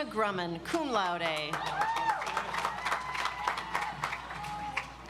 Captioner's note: audience applauds